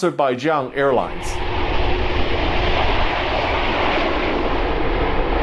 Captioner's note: aeroplane engines roaring